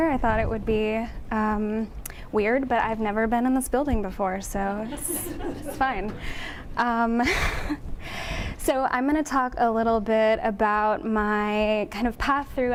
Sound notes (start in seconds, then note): 4.9 audience laughing